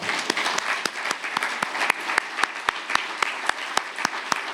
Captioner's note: audience applauding